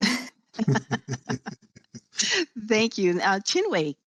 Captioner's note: group laughing